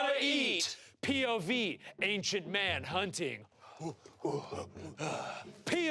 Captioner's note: grunts